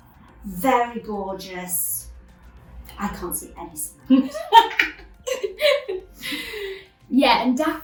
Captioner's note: laughs